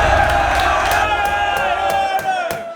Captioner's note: can banging on bar; crowd yelling